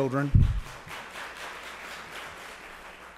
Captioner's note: applause